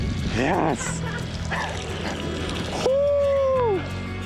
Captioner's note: laughs